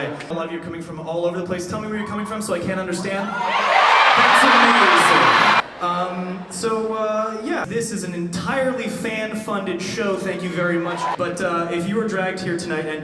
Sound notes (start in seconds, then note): 3.1 yelling